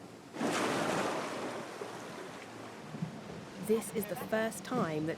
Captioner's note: water splashing